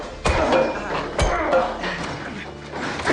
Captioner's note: thuds from pipe